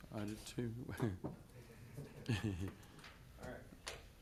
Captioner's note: laughs